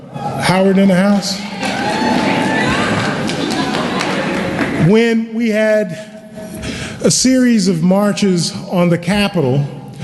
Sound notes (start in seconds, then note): 1.3 cheering and Applause